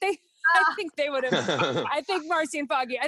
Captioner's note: everyone laughs